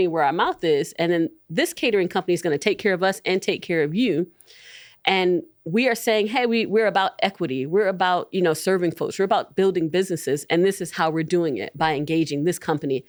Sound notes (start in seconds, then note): none